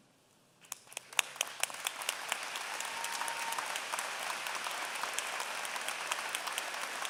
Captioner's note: applause